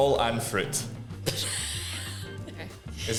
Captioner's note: laughing